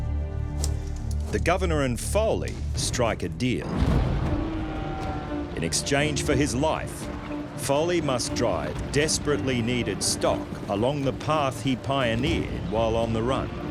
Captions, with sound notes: [shackles clanking] The Governor and Foley strike a deal. [cows mooing] In exchange for his life, Foley must drive desperately needed stock along the path he pioneered while on the run.